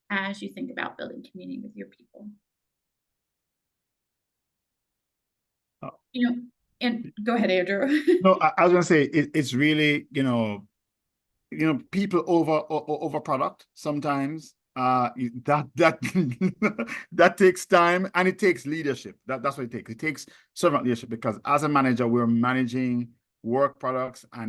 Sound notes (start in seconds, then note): 8.0 chuckles; 15.9 laughs